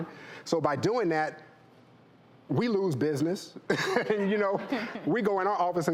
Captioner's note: laughs